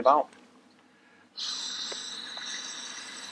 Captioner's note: Sound of air being blown into the pink DSMB